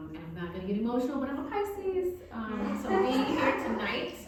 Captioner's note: audience laughing